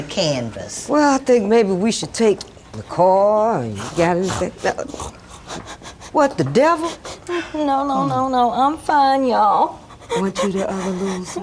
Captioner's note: sounds of heavy crying